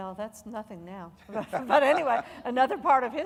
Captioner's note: laughing